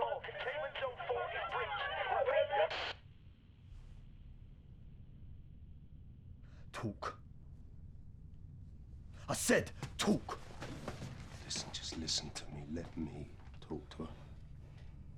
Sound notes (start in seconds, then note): 2.0 static from walkie talkie